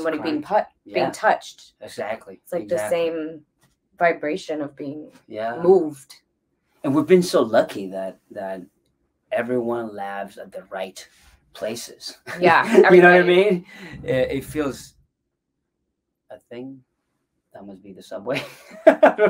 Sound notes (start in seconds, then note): 13.8 booming sound; 13.9 chuckles; 18.8 laughs